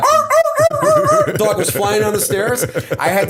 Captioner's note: laughter